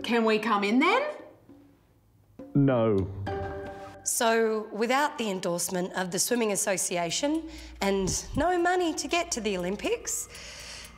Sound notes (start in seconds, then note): none